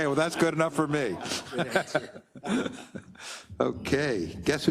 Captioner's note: laugh